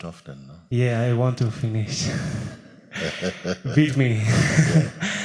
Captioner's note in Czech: smích